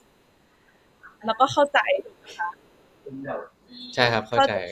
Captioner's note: clarifying in Thai; in Thai